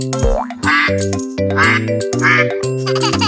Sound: duck quacks; giggles

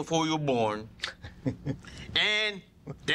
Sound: laughs

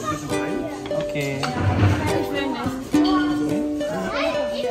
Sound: speaking German

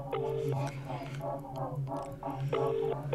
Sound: whispers; ringing tone continues

